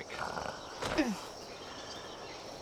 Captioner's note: grunts